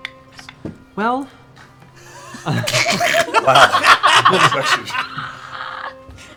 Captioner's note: laughter